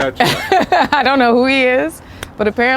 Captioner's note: laughs